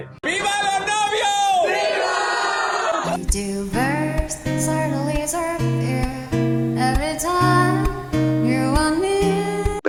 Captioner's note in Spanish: grito